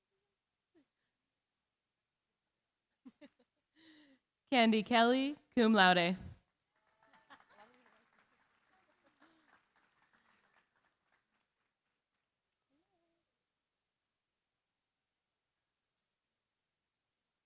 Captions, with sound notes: Candy Kelley, cum laude. [APPLAUSE]